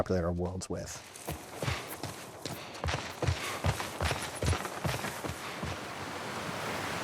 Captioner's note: footsteps thudding; character gasping; water splashing